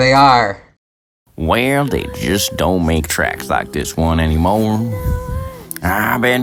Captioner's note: exaggerated American south accent